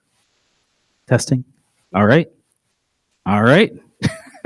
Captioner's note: laughs